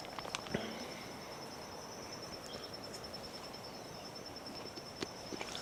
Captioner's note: birds chirping